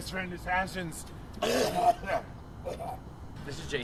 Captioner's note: more Gross Coughing